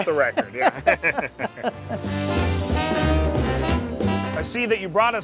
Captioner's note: both laughing